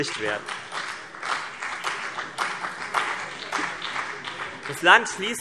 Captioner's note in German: Beifall CDU und BÜNDNIS 90/DIE GRÜNEN